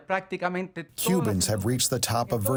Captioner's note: through translator